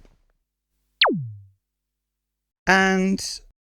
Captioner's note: zapsound